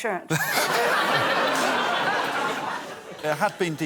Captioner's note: laughter